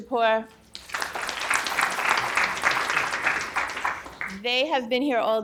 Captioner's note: audience applauding